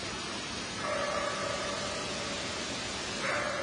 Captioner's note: eerie barking